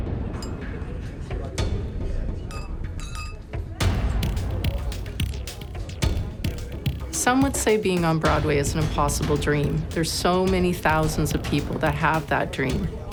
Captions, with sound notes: (people chattering) (glasses clinking) - Some would say being on Broadway is an impossible dream. There's so many thousands of people that have that dream,